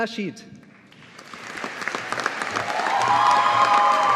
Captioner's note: audience applauding